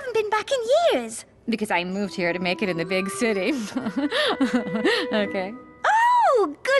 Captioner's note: laugh